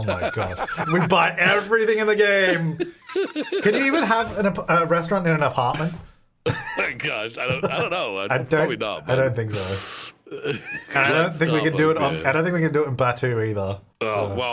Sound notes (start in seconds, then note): 2.4 laughing; 6.4 laughing